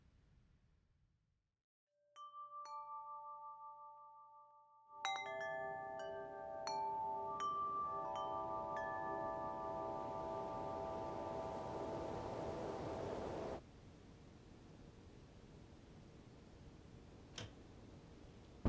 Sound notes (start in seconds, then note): 2.5 wind chimes ringing